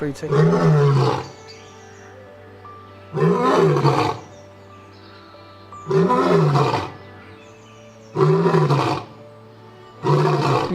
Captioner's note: Lion Roaring